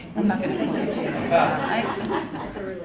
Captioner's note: laugh